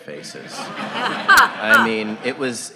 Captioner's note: audience laughing